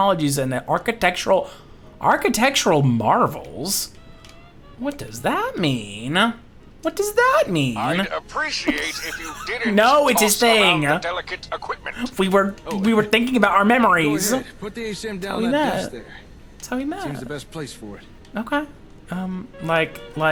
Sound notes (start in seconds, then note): 6.9 laughs